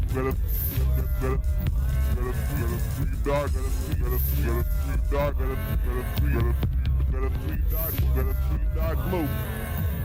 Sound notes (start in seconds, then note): 3.7 distorted voice of a man talking; 9.3 people talking to each other